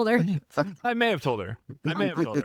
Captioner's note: laughing